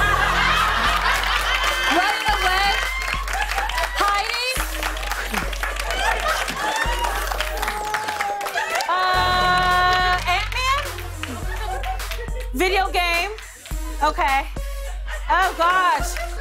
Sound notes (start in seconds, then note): 0.1 laughter and applause; 5.2 laughter